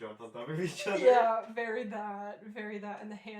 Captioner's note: laughing